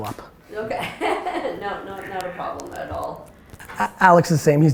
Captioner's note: laughs